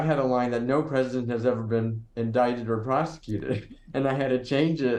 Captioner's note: chuckling